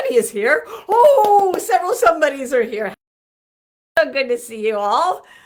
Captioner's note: hands clapping